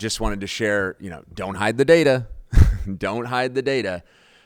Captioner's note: chuckles